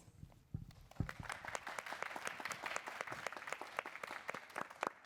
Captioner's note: applause